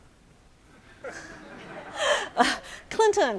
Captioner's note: audience laughing